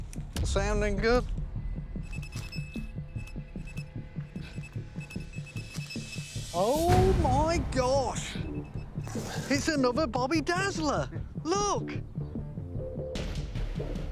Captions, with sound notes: Sounding good. [beeping] Oh, my gosh. It's another bobby dazzler. Look!